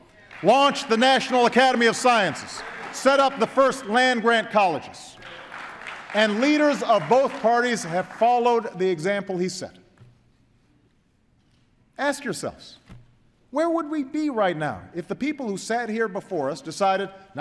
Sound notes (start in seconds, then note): 0.0 applause